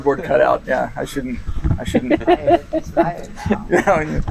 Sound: giggling

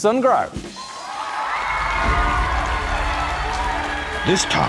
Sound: audience cheering and applauding

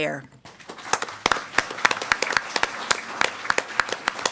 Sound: all applaud

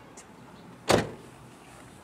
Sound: door slams

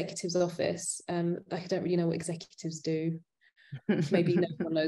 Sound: chuckling

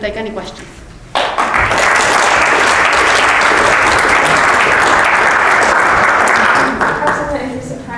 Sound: applause

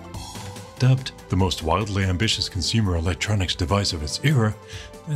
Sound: American accent

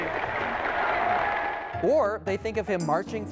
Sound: audience applauding

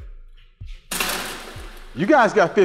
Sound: cage door closes

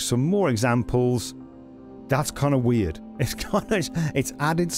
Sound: laughs nervously

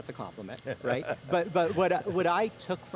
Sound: laughing

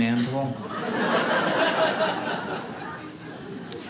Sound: audience laughing

